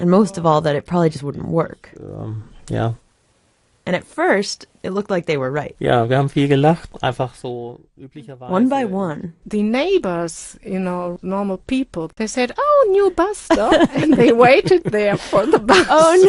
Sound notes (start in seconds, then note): 6.0 speaking German